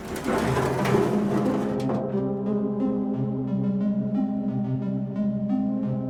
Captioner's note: metal clanking; unsettling music